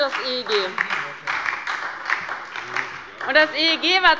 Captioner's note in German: Beifall bei der LINKEN und bei Abgeordneten des BÜNDNISSES 90/DIE GRÜNEN